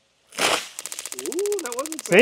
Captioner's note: board clicking; water splashing